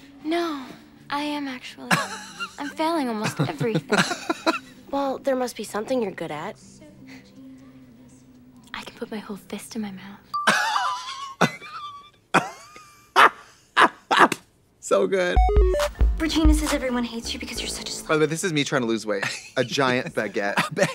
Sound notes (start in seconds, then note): 13.1 Trixie giggles; 15.3 upbeat music